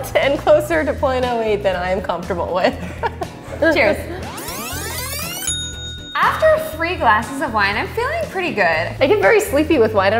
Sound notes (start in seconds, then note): 4.2 tape fast-forwarding; 4.4 bell dings